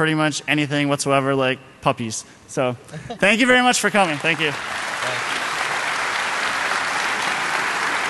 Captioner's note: applause